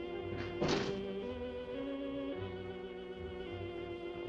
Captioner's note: suspenseful orchestral music; door clicking